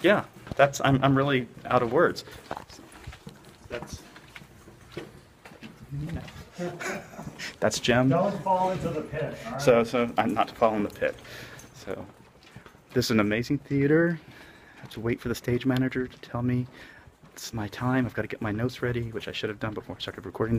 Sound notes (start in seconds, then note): 6.7 laughter